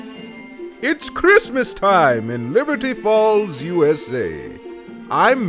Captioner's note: upbeat voiceover